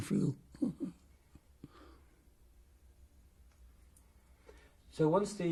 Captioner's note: laughs